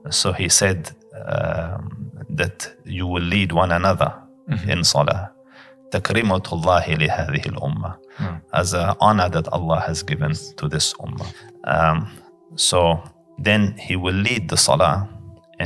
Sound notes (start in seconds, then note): 5.8 Arabic